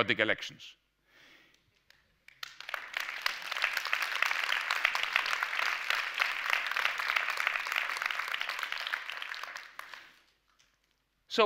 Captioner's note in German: Applaus